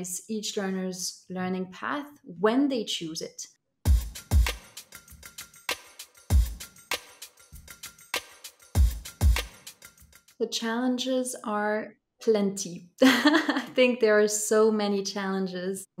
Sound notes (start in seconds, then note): 3.8 upbeat music; 13.0 laughter